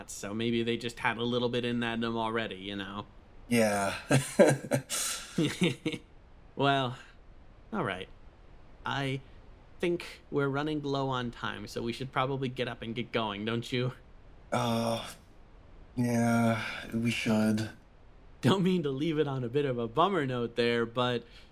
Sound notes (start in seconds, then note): 3.6 chuckles